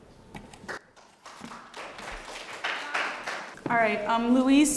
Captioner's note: applause